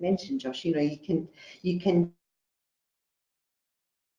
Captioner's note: audio distorts